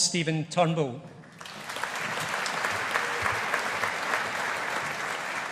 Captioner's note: audience applauding